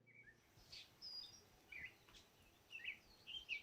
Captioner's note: birds singing